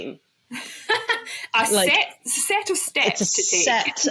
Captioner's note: laughs